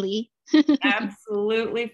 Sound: laughter

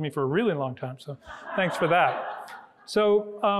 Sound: audience laughing

